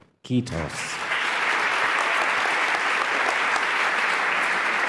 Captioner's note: applause